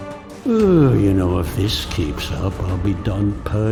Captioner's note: dramatic music; yawns